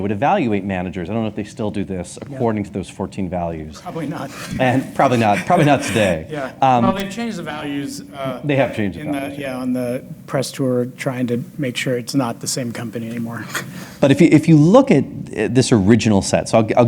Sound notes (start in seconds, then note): 4.0 laughs